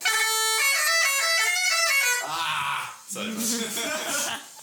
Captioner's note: laughter